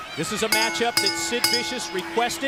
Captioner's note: bell ringing